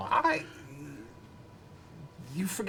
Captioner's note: none